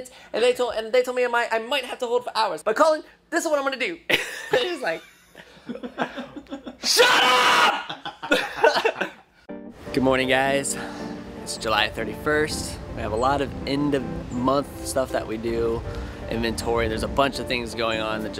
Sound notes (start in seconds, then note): 4.5 laughs